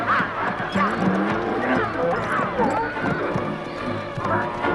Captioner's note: donkeys braying